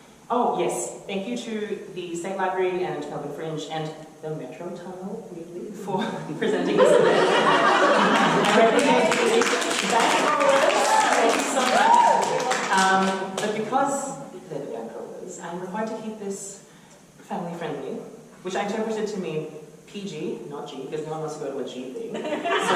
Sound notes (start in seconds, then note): 6.4 audience laughter; 10.8 applause